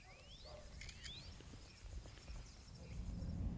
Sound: camera shutter sound

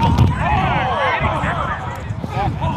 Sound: shouting

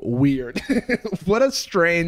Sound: laughs

